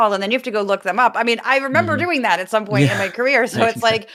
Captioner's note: laugh